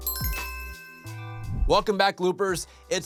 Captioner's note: lo-fi music; bell dinging